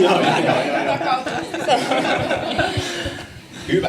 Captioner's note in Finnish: naurua